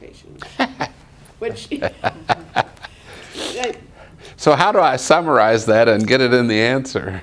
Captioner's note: laughter